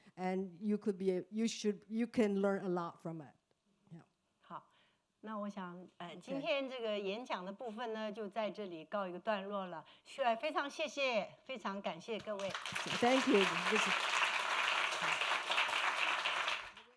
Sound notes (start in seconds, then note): 5.7 speaking Mandarin